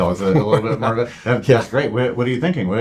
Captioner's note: laughs